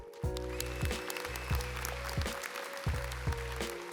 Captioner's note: audience applauds